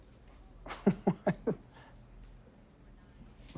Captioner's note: laughs